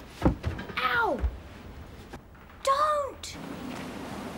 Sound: thumping

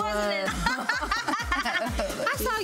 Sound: both laughing

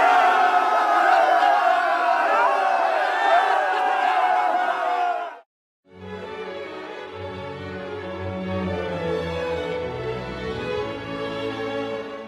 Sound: cheers

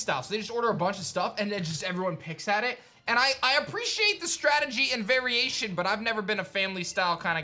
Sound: none

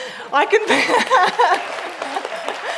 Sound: applauding

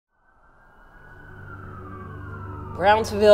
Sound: sirens

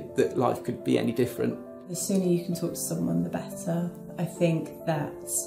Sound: voiceover

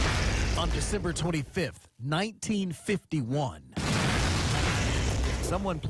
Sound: explosion

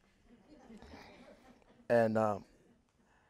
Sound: audience members laughing

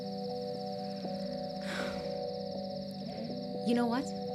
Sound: sighs

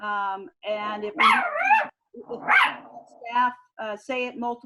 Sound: dog barking covers speaker

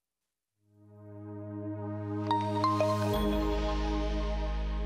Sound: logo chiming

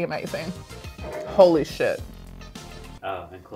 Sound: mug scraping

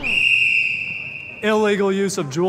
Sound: music faltering; whistle blowing

